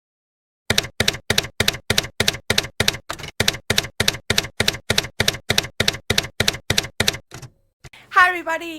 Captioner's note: typewriter keys clacking